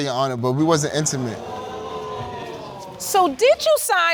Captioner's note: audience exclaiming